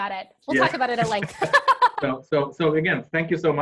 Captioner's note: laugh